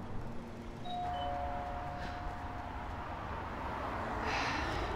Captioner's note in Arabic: رنين جرس الباب